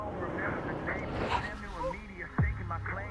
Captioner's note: brief brake squeal